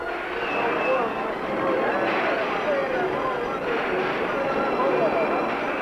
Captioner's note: carnival announcer shouting